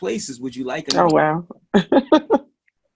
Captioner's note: laughing